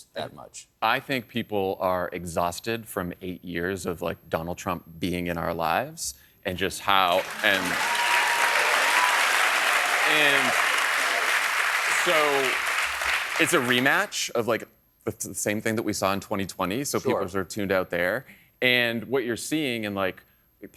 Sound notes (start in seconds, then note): 10.1 applause